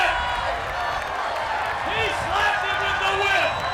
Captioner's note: applause